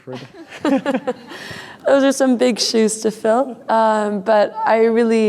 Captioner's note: laughing